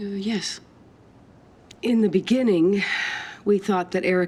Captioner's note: sighs